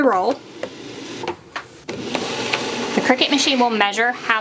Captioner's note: Cricut machine roaring